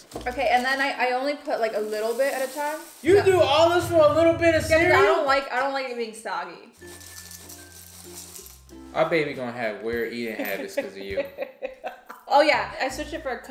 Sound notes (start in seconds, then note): 6.8 cereal shaking; 6.8 whimsical music; 10.3 laughs